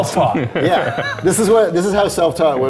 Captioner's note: all laughing